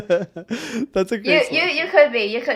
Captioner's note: person laughing